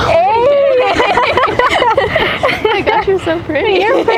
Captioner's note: both laughing